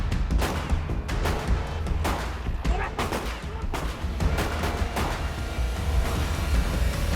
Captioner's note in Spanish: Disparos